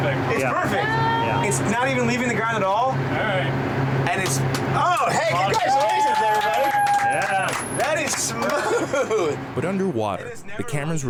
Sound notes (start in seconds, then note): 6.7 cheers and claps; 8.3 laughs